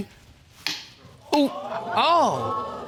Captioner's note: thud; audience exclaiming